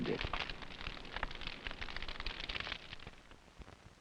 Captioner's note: pie crackling